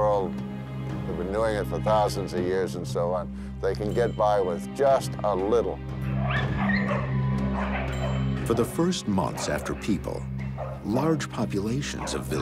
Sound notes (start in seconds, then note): 6.0 barking